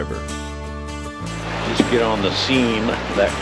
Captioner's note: water flowing